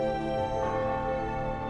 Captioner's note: church bell ringing